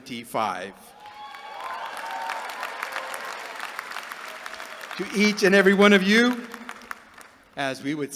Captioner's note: applause